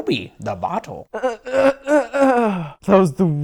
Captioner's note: moaning